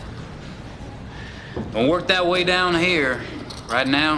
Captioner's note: southern accent